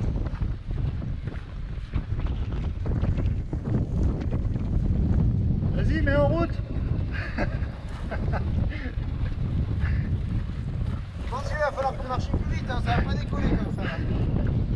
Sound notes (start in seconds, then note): 7.1 laughs